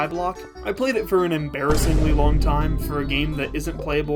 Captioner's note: boom